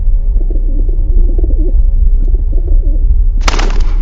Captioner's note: cooing